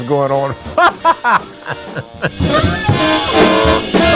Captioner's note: laughs